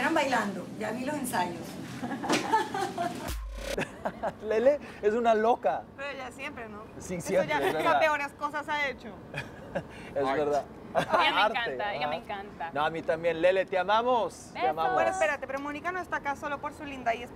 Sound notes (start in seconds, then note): 2.0 Risas